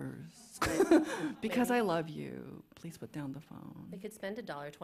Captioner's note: chuckles